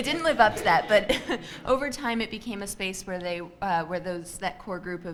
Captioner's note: chuckles